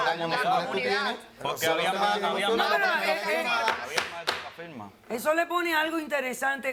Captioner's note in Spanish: Hablan al unísono